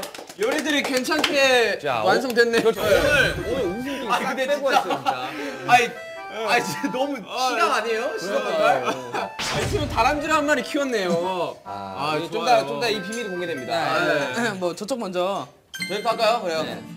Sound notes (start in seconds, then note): 2.8 laughs at squirrel